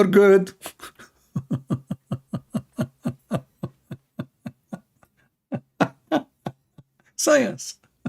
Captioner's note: Ketawa